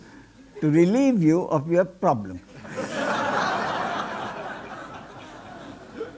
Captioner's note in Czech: smích